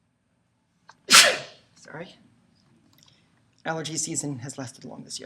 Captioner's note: sneezes